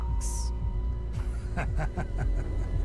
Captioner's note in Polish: śmiech